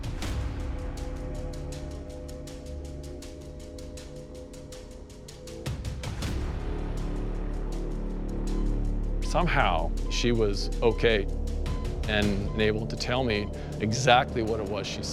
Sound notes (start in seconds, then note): 0.2 dramatic music playing; 8.1 machine beeps